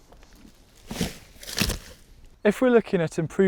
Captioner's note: crunching